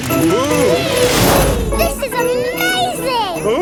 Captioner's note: all exclaiming